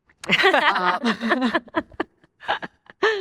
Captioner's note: all laugh